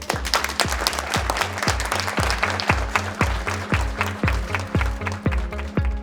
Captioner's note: audience clapping; inspiring music